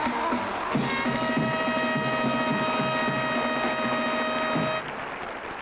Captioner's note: audience applauding